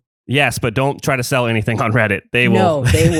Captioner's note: laughs